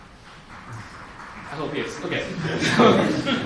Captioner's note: applause